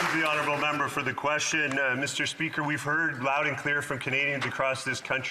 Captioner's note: some Applause